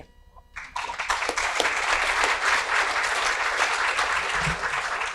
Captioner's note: audience applauds